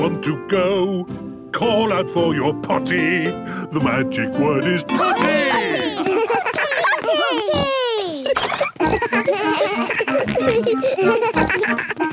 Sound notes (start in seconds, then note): 7.2 giggles; 8.9 snorts, bleating